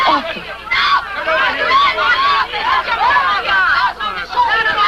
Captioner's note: screaming